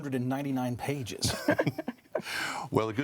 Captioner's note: panelists laughing